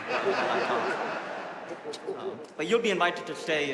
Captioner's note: audience laughing